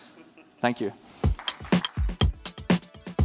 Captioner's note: applause